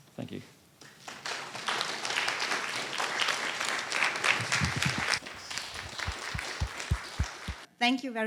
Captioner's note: applause